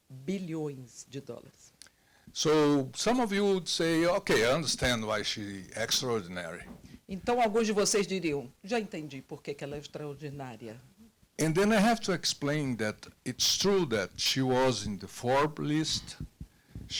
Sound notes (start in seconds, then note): 7.3 translator speaking Portuguese